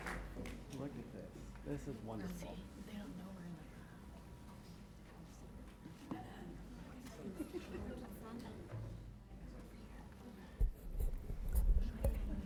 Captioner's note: applause